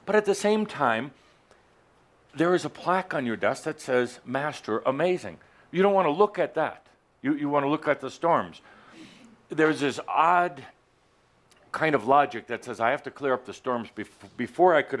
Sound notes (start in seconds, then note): none